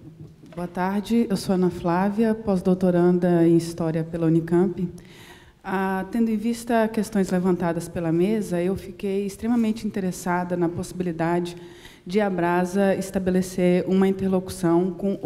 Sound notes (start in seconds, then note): 0.7 speaking portuguese